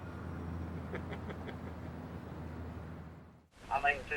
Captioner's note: laughing